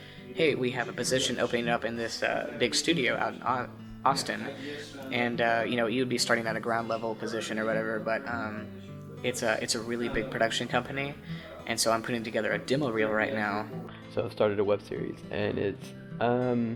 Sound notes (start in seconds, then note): none